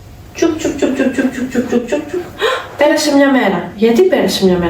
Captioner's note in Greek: γέλια